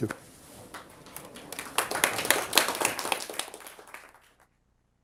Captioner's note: applause